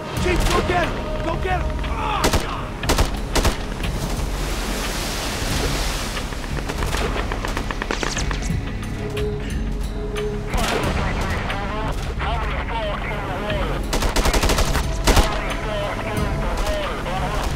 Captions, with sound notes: - Chief, go get him! Go get him. - Oh, god! (waves crashing) (radio chattering) (guns firing)